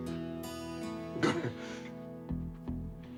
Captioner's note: chuckles